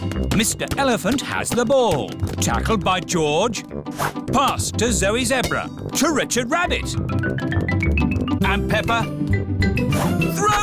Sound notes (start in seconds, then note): none